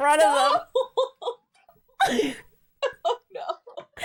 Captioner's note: laughs